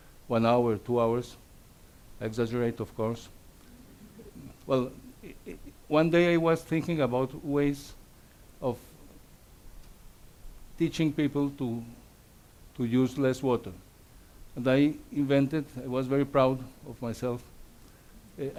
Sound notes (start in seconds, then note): 3.6 audience laughs